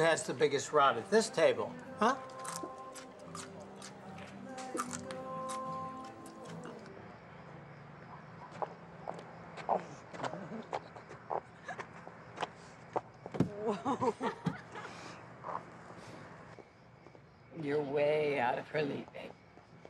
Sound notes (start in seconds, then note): 4.1 crunching; 7.3 insects chirping; 9.8 Jes laughing; 13.5 Abigail laughing